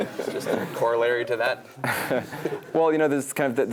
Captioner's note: laugh